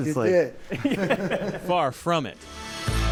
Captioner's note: laughter